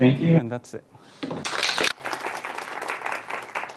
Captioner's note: applause